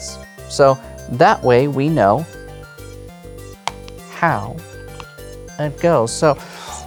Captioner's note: card slaps